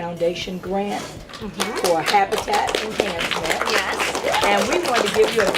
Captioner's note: clapping